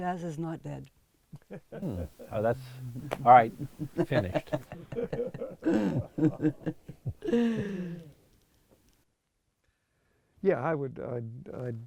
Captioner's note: laughs